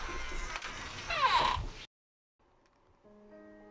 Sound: door creaking; mellow music

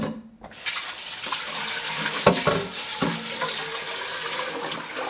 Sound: tap water running

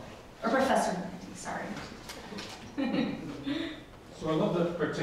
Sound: laughs

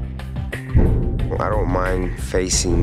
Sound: thud echoes

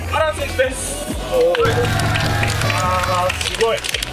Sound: bigge cheer and clapps

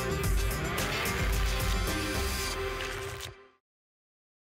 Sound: tickets shuffling

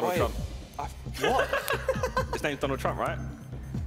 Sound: laughing

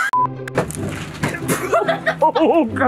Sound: trunk clunks open, hits arm; laughing; laughs

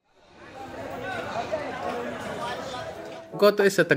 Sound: people talking

